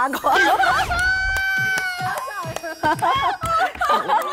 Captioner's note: can't stop laughing